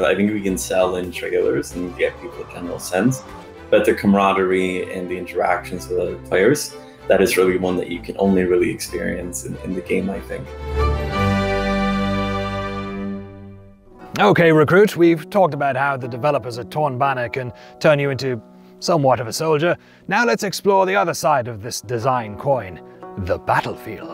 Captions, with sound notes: I think we can sell in trailers and get people and they'll sense. But the comradery and the interactions with other players, that is really one that you can only really experience in the game, I think. - (KNIGHTLY VOICE) Okay, recruit. We've talked about how the developers at Torn Banner can turn you into somewhat of a soldier. Now let's explore the other side of this design coin, the battlefield.